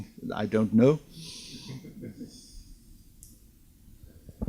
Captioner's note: audience laughs